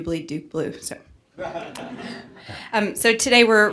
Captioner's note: laughing